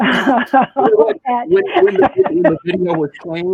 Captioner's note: laughter